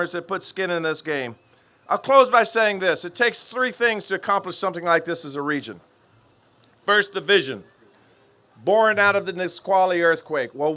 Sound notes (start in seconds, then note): none